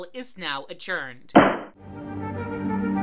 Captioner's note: gavel